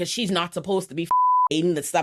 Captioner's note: beep